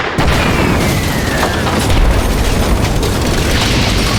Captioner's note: explosion